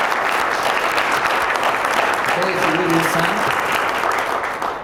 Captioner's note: applause